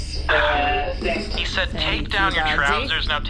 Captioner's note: sighs